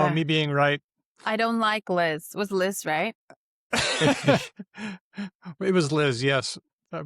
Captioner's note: laughter